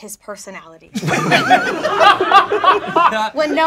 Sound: laughing

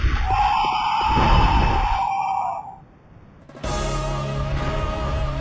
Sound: Cleric Beast growls; suspenseful music

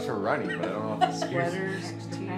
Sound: laughter

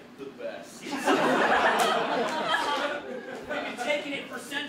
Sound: audience laughter

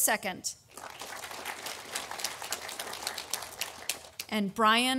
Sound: audience applauding

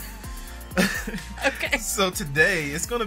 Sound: laughs

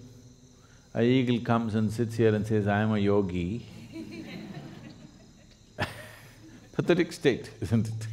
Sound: laughter

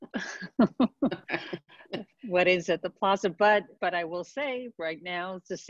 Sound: laughs

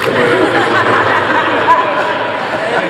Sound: audience laughs

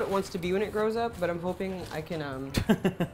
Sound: laughs

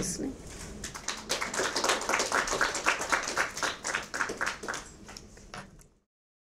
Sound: audience clapping

